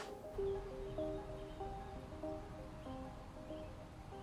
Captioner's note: birds chirp